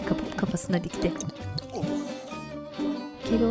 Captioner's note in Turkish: İçme sesi